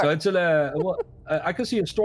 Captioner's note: chuckles